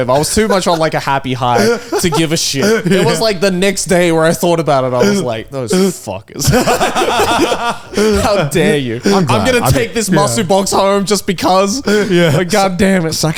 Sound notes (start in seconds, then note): 6.4 all laugh